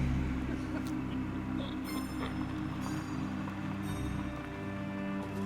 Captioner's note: eerie music; car rumbling